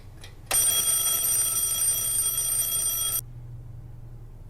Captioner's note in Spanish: Sonido de Alarma